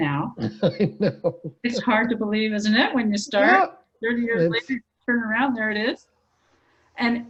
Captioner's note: laughing